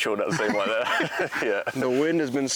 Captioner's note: both laughing